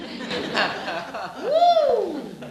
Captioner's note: laughing